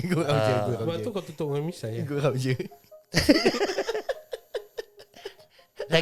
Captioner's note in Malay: ketawa